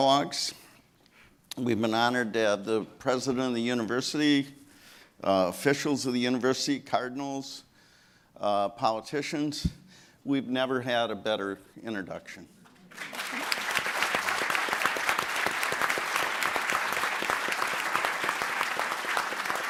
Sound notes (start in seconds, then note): 12.8 applause